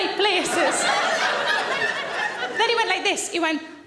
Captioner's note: audience laughing